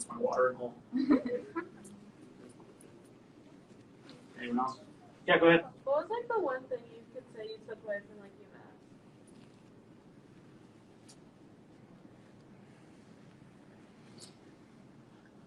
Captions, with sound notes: That's like mine, that's my watering hole. (audience laughs) Anyone else? Yeah, go ahead. - What's like like the one thing that you could say that you took away from UMass?